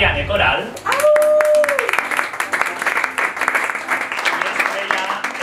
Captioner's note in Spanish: aplausos